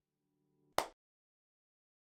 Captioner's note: clap